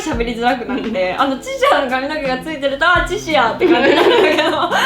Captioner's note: laugh